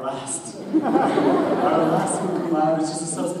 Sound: audience laughs

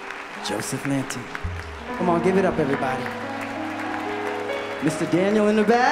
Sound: applause

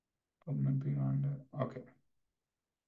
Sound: mutters

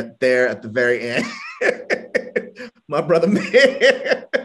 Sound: laughs

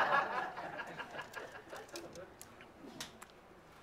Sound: laughter

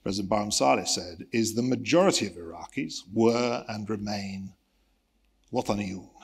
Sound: speaks Arabic

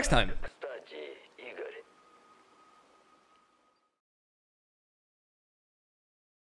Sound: speaking foreign language

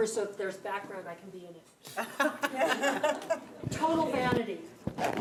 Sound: board laughing

